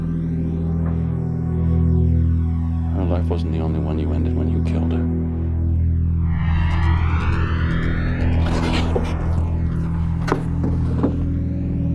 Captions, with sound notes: Her life wasn't the only one you ended when you killed her. (somber synthesizer music) (rustling)